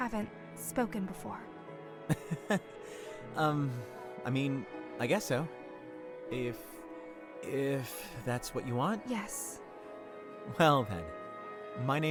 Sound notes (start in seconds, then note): 2.1 amused laugh